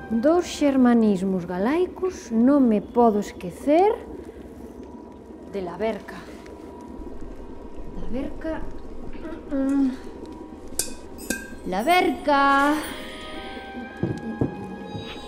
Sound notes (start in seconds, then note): 8.8 heavy breathing; 10.7 metallic noise; 11.2 bells tinkling